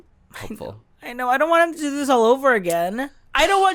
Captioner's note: pouty voice